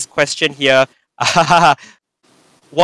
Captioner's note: laughs